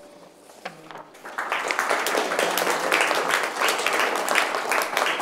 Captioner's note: attendees applauding